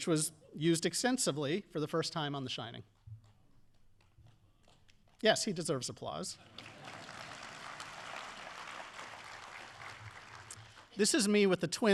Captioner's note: audience applause